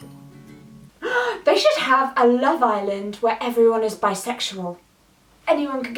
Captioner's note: gasp